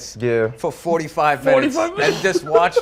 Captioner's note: laughs